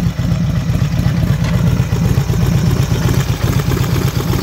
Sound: engine revving

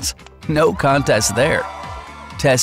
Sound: crowd Cheers

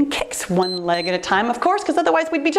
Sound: timer beeps

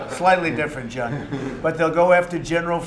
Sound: laughter

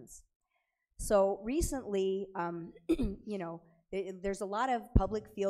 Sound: clears throat

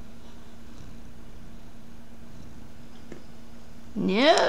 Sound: purring

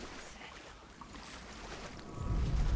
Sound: whisper

